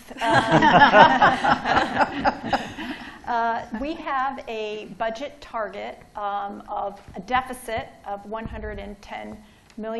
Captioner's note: laughter